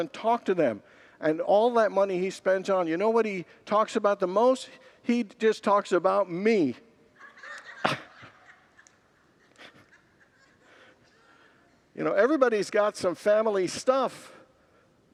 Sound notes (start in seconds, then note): 10.1 congregants laugh